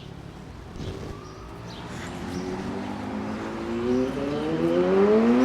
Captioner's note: street noise